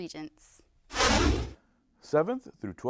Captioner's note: deep swooshing